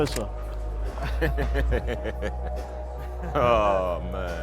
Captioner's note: camera clicks